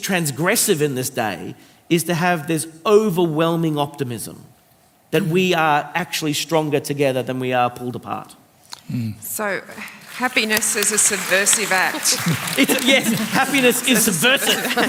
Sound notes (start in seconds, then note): 9.8 applause